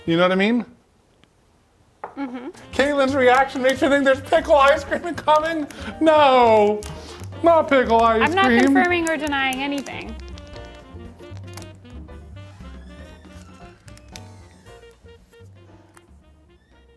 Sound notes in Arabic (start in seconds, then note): 10.1 موسيقى جاز متفائلة; 12.9 صرير الباب